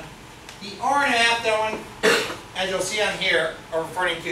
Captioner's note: speaks softly